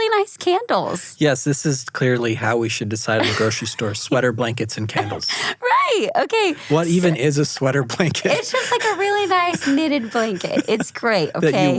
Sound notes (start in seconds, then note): 6.1 laughing